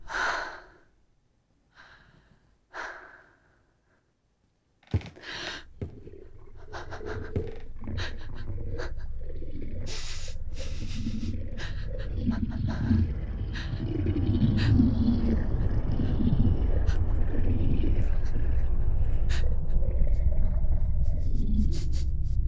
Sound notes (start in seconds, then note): 0.3 exhales; 4.8 floorboard creak; 12.3 ominous gurgling